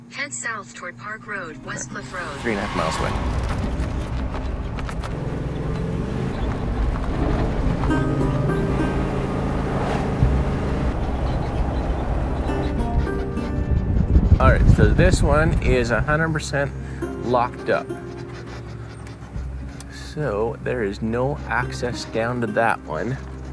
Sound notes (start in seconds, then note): 5.4 engine revving; 8.2 gentle music